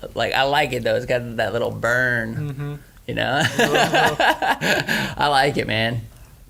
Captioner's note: laughs